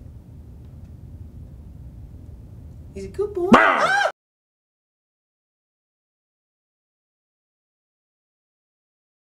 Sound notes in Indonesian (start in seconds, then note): 3.5 Menggonggong agresif dan menjerit